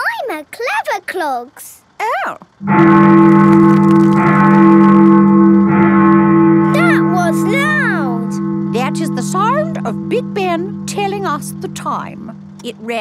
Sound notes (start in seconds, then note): 3.2 bell tolling